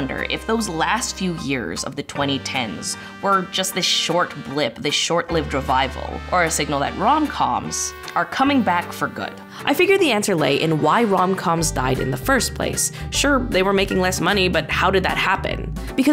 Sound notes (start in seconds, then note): none